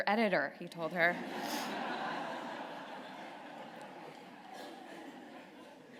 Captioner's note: laughter